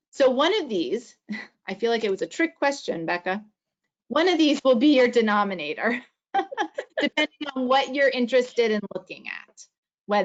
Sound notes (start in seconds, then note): 6.8 panelists laughing